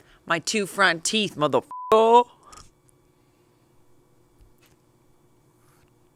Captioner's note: beep